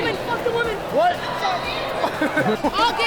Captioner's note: laughs